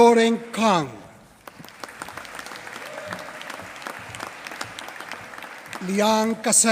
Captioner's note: applause